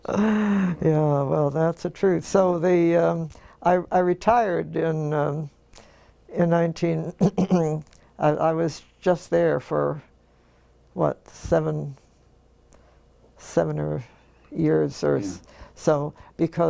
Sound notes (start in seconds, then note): 7.2 cough